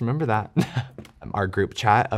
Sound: chuckles

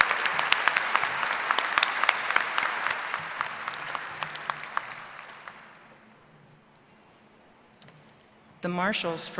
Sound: applause

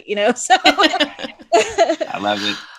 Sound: laughing

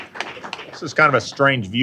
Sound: applause

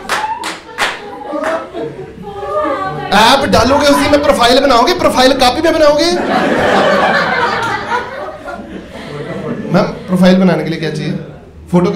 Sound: audience laughs

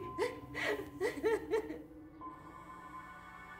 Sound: crying

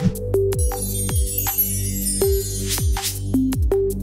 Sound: graphic chiming

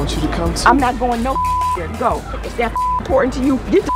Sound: beep

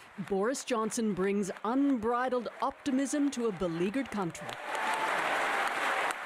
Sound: applause

